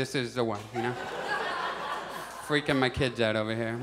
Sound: audience laughs

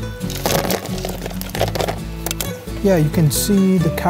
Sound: rocks clattering

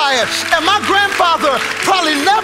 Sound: congregation applauding

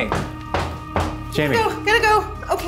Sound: feet stomping

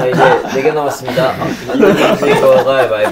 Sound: laughing

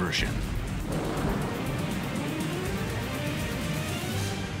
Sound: explosions

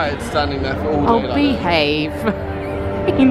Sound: laughing

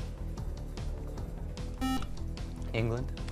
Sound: buzzer

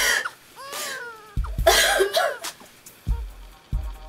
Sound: baby cries

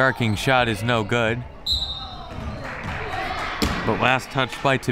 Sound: whistle

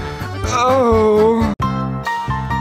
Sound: justified orgasm sounds

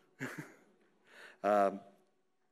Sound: laughs

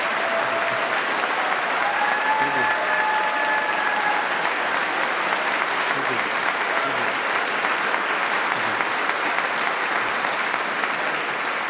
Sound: applause

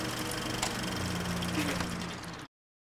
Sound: projector dies

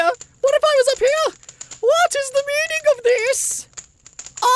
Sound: in a high pitched posh voice

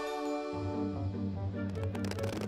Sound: none

